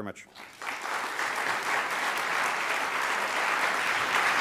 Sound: applauding

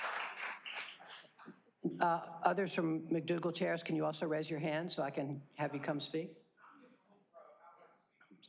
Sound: applause

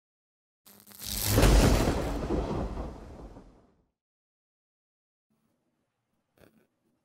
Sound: electricity sizzling; thunder rumbling

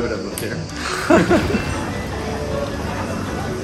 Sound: laughs

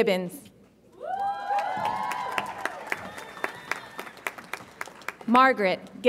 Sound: audience applauds and cheers

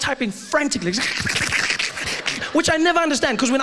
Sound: typing Frantically

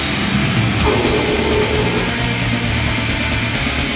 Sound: growls

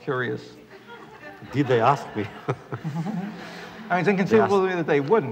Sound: laughter

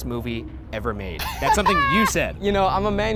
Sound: laughing

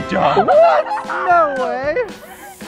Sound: cheering

